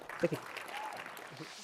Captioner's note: applause